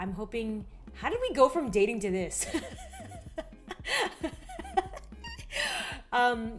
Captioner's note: laughs